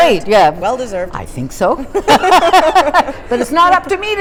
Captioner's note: laughter